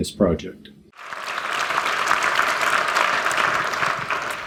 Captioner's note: applause